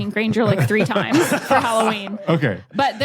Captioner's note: group laughing